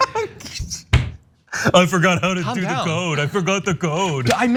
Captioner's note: laugh